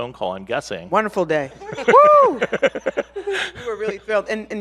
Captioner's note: laughs